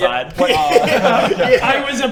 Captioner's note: disturbing giggles